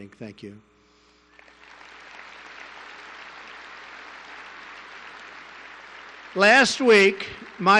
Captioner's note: applause